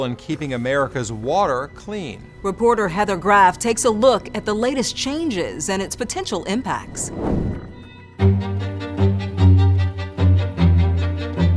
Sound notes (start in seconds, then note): 6.7 air whooshes; 7.6 intriguing music